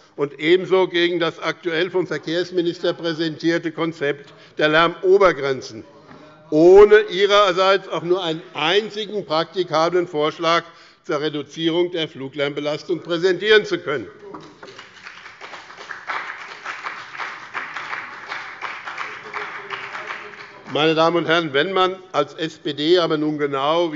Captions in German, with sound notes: und ebenso gegen das aktuell vom Verkehrsminister präsentierte Konzept der Lärmobergrenzen, ohne ihrerseits auch nur einen einzigen praktikablen Vorschlag zur Reduzierung der Fluglärmbelastung zu präsentieren. [Beifall bei dem BÜNDNIS 90/DIE GRÜNEN - Zurufe von der SPD] Meine Damen und Herren, da nun aber die SPD genau